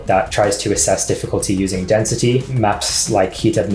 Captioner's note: none